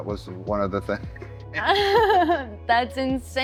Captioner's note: laughter